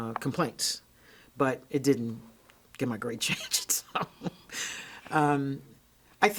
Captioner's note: laughs